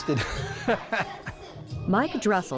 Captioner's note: laughs